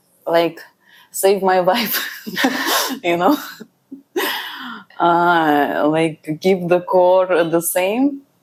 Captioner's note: laughs